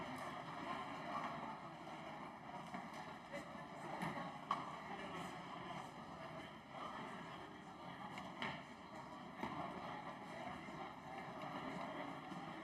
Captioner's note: crowd Noise